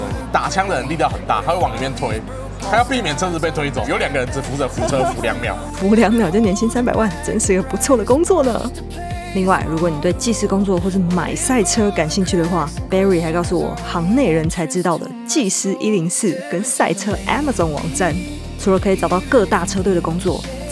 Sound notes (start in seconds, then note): 8.8 haha